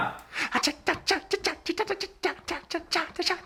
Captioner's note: tap dance noises